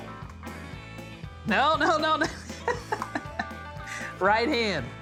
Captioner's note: laughing